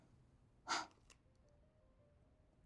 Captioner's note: exhales sharply